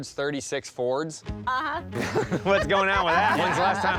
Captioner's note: laughter